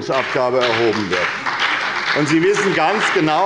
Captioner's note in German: Beifall bei der SPD und der FDP